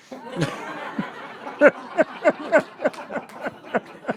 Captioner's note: audience laughing